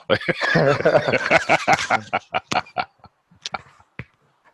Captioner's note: laughing